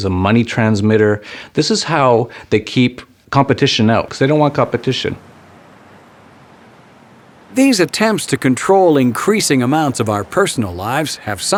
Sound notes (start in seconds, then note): 8.0 voiceover